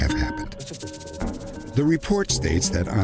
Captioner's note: speaking russian